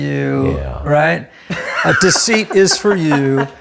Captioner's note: laughs